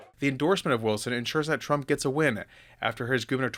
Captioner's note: none